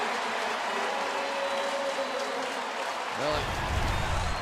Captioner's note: announcer on pa